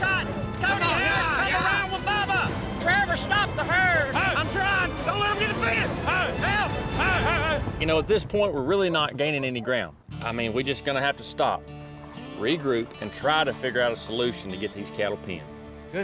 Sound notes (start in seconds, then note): 0.0 all shouting